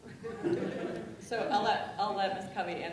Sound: laughing

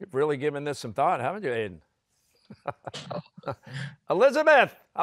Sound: chuckling

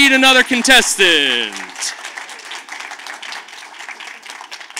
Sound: audience claps

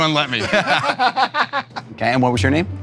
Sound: laughter

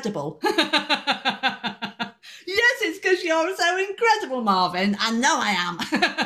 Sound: laughing

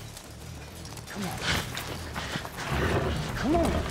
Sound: horse blusters loudly

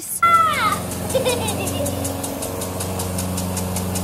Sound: giggles

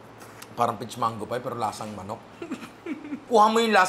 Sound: chuckles

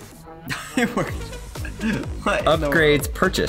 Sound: chuckles

